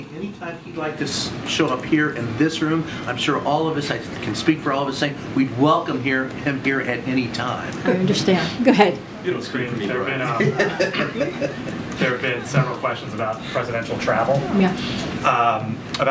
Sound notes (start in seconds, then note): 9.9 laughs